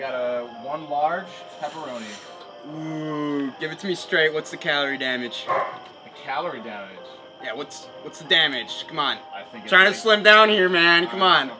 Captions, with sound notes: We got a large pepperoni ooh, give it to me straight what's the calorie damage? [barks] the calorie damage? Yeah, what's the damage? Come on. I'm tryna slim down here man, come on.